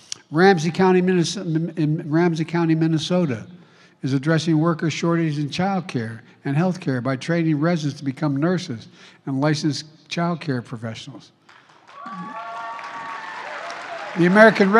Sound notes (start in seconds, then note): 11.4 applause